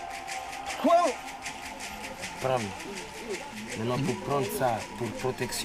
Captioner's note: man speaks foreign language